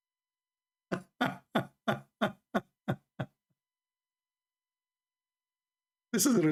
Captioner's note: Ketawa